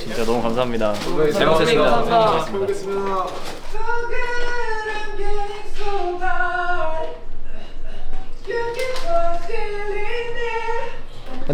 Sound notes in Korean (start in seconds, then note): 7.4 켁켁